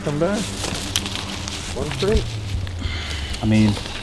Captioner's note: leaves rustle